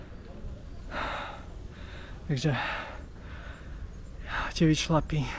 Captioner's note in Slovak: vzdychanie